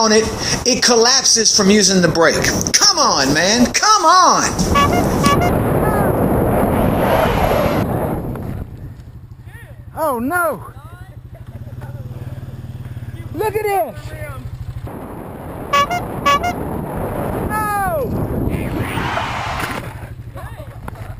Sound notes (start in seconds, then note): 6.5 bicycle Horn Honking, yelling; 9.8 tire Squeal; 15.7 bicycle horn honking, yelling with tire squeal; 19.9 kids Laughing